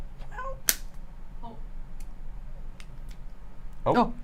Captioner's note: clicks scooper